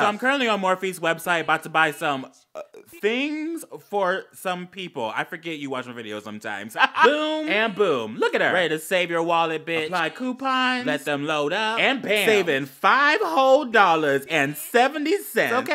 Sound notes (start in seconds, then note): 2.1 choke/ stutter idk; 6.8 gay laugh